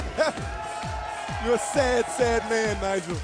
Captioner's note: laughter